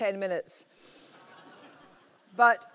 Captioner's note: laughter